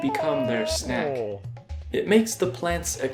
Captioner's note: Goron Link screaming, then sighing relief